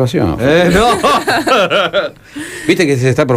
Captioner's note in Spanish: risas